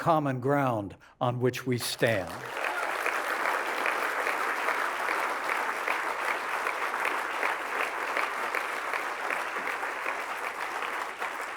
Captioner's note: applause